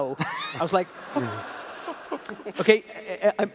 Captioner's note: laughs